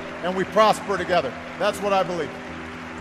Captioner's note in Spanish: Aplauso